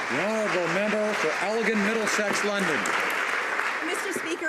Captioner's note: applause